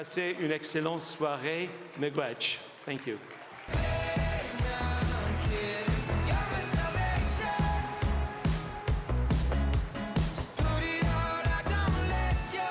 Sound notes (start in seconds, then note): 3.7 speaking French; 5.8 speaking Alternate Language